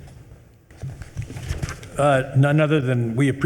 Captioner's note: paper rustling